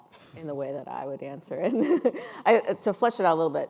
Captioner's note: laughing